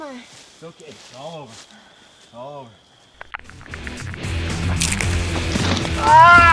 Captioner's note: crunch; clicking; shout; thud